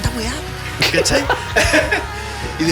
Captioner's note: laugh